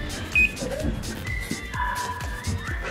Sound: beep

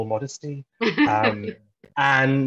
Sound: laughs

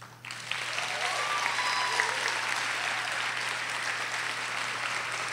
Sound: audience cheers and applauds

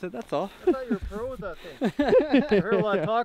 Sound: laughing

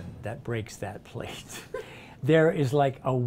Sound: laughing

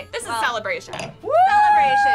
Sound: cheering

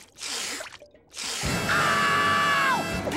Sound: screaming

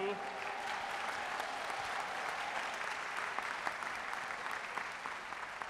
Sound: audience cheering and applauding

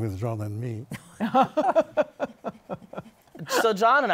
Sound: laughter

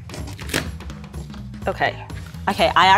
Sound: paper rips

